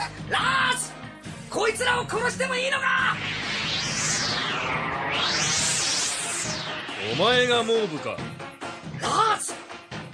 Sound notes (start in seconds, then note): 4.7 SFX: sound of magic